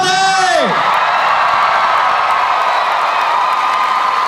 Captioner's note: cheering